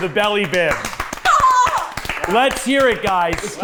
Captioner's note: cheering